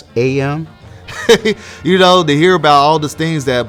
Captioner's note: chuckles